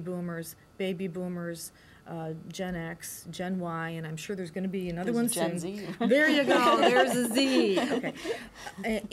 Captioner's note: laughter